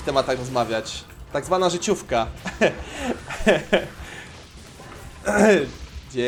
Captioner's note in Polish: śmiech